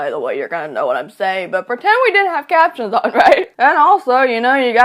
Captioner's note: laughs